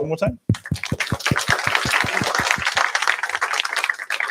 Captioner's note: applause